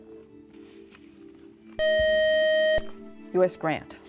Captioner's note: buzzer